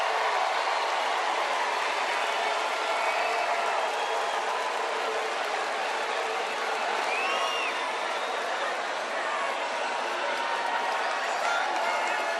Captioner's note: cheers and applause